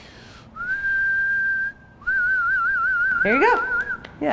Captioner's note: whistles; rippling whistle